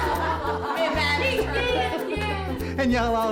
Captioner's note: laughs